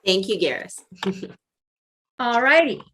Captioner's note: chuckles